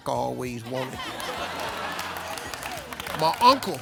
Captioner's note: laughs